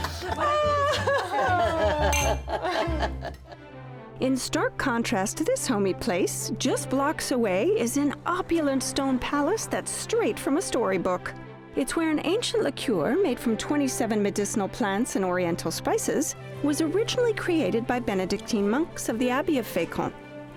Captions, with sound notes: [ Laughter continues ] [ Glasses clink ] -In stark contrast to this homey place, just blocks away is an opulent stone palace that's straight from a storybook. It's where an ancient liqueur made from 27 medicinal plants and oriental spices was originally created by Benedictine monks of the Abbey of Fécamp.